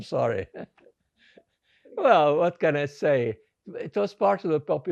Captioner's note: laughing